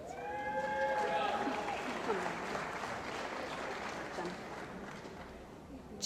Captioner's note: cheering & Applause